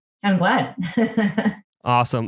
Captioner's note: laughs